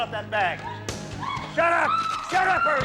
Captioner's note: woman screams